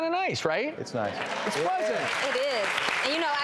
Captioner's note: audience applauds